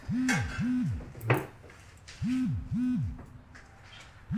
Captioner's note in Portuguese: celular vibrando